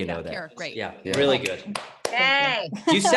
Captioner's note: clapping